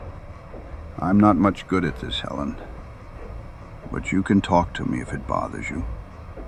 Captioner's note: low, gentle